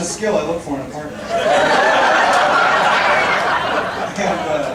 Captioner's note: audience laughing